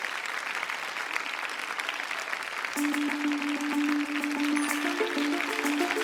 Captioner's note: applause